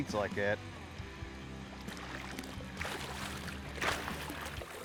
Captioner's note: water splashing